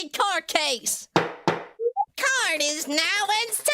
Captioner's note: gavel slam